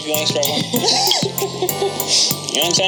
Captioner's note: both laugh